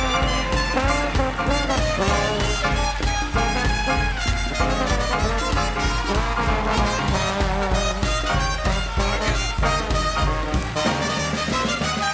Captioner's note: cheers and applause